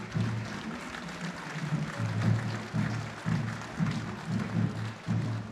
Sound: applause

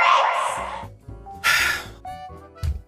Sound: sigh

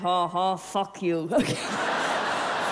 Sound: laughs

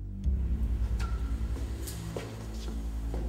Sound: scrapping

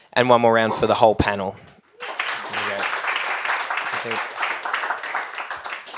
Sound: applause

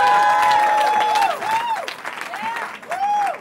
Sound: cheering

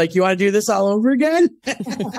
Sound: laughing

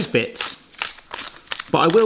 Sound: pepper mill grinding

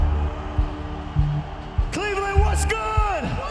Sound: crowd cheering

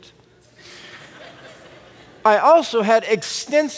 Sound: laughter

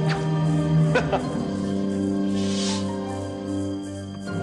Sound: chuckling

